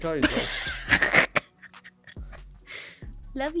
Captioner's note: laughs